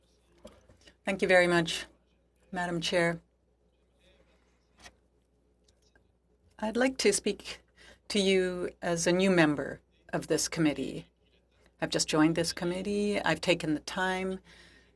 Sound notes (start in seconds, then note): 11.6 speaking French